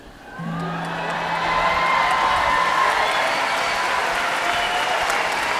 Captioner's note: audience applauding and cheering